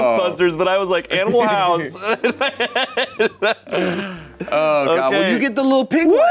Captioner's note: laughs